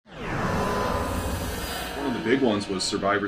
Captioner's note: logo swooshes